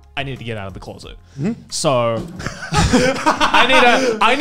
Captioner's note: laughing